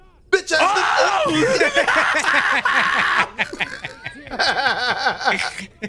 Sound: everyone laughing

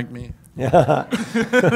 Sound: laughs

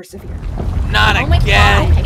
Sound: rumbling again

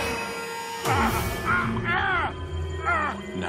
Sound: screaming

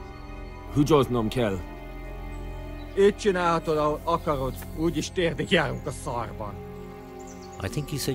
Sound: Speaking Hungarian

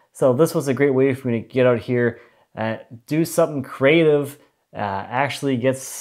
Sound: none

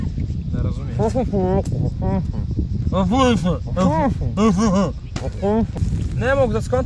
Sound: mumbling

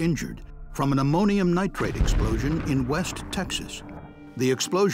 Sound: sound of explosion

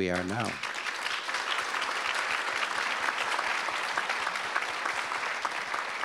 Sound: audience applause

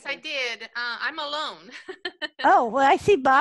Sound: laughs

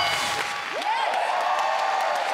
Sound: ding; cheering; clapping

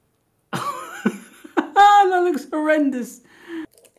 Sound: laughing

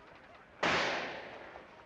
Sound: gunshot

